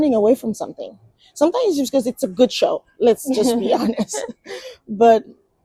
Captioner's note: laughs